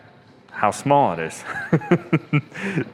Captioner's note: laughs